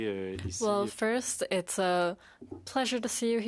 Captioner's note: speaking in French